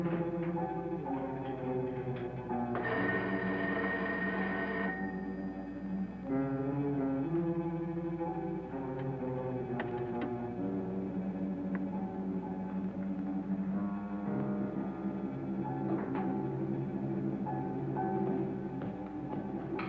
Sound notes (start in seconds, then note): 2.7 phone ringing; 9.7 door clicking open